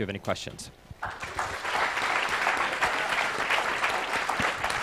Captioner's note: applause